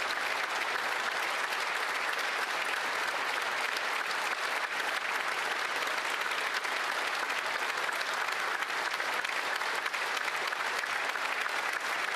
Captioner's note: applause